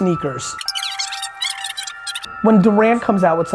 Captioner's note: fast-forwarding noise